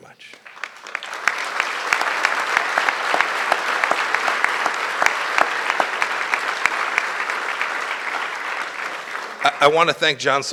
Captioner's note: applause